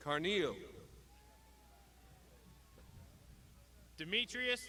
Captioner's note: crowd shouting